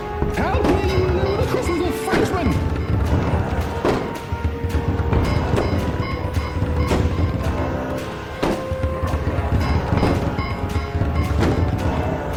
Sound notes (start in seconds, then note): 3.3 suspenseful music; 5.8 zombies banging